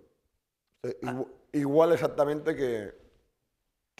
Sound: speaking spanish

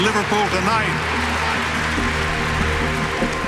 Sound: applause

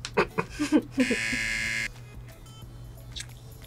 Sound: laughs; buzzer

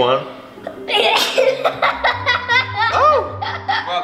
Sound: sneezes and laughs

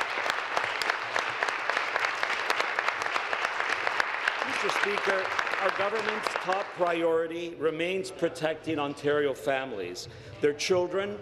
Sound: applause

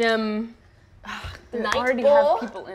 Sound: groans

